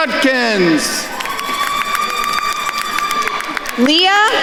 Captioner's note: attendees cheering and applauding